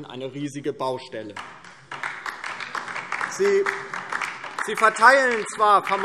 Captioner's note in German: Beifall DIE LINKE